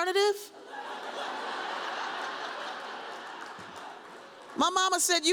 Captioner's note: audience laughs